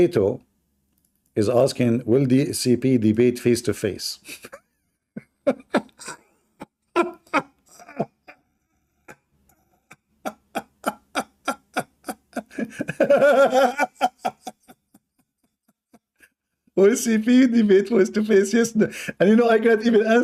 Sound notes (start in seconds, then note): 4.2 Ketawa